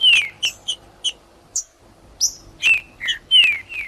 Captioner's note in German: trinca ferro cantando